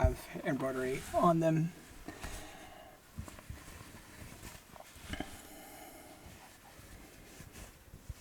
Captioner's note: fabric rustling